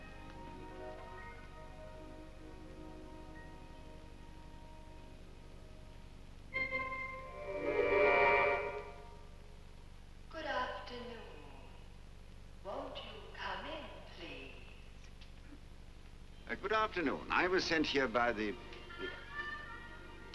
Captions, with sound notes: [chime] Good afternoon. Won't you, come in, please. Good afternoon. I was sent here by the.